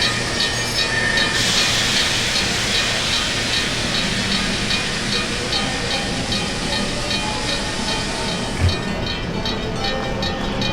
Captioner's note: air brakes hissing